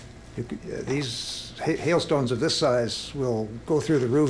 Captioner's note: stutters